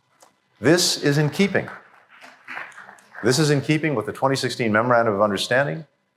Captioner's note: applause